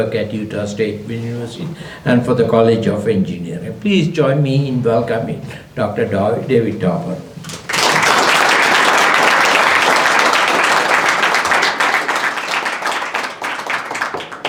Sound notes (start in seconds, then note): 7.4 applause